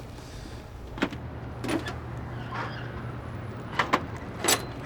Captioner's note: toolbox rattling